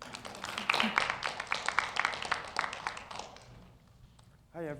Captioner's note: audience applauds